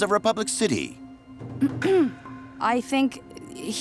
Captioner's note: clearing throat